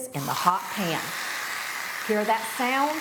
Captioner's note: meat sizzling